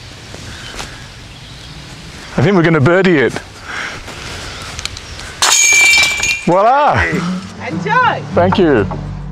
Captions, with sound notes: I think we're gonna birdie it. (cage rings) Voila! - Enjoy! - Thank you.